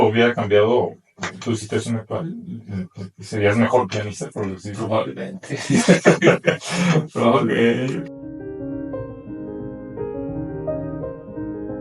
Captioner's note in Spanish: risas